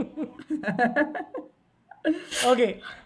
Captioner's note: both laughing